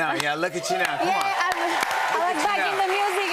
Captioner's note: cheers and applause